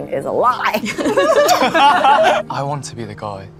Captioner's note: cast laughs